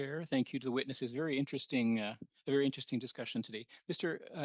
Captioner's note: speaking French